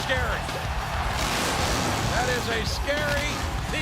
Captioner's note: motorcycle engine revving